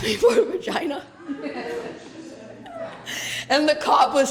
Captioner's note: laughter